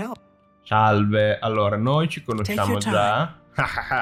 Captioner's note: satisfied laughter